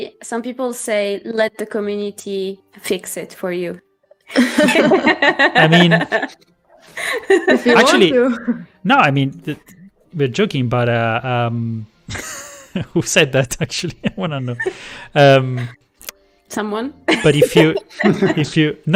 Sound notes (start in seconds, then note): 4.3 laughter; 13.3 laughs; 17.1 laughter